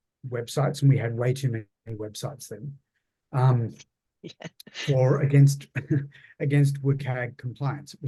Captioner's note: laughs